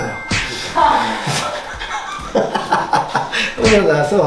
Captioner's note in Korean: ㅋㅋㅋㅋㅋㅋㅋㅋㅋㅋ